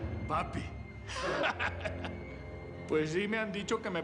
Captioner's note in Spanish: risas